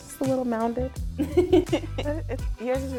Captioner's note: laughing